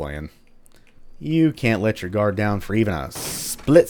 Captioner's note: smashes wood